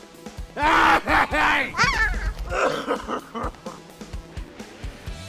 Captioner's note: upbeat music continues; child screaming